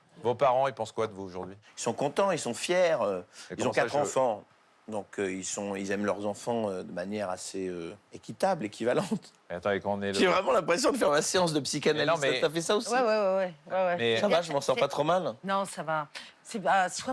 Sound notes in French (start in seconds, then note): none